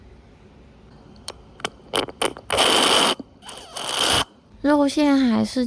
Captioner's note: aggressive slurping noises